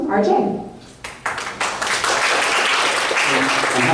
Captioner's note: audience applause